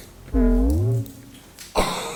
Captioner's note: creepy fart